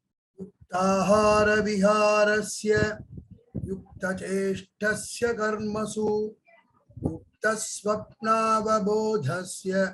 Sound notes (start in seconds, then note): 0.9 speaks in Hindi